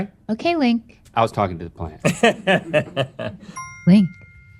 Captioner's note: laughter